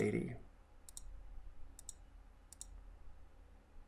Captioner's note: mouse clicking